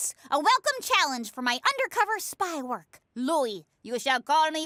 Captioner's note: bad russian accent